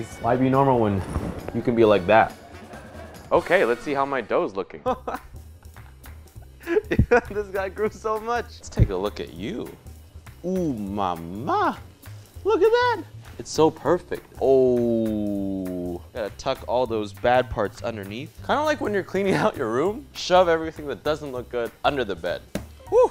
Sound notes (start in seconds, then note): 6.3 laughs